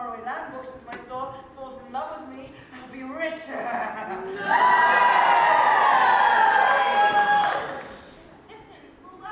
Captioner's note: audience cheers